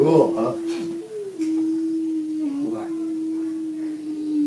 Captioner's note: humming